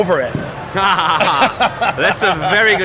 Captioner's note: laughing